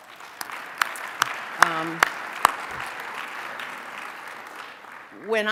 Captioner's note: applause